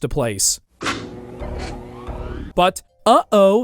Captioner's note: electric sounds